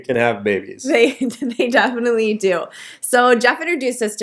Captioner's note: laughing